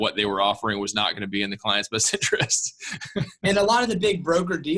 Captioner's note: laughs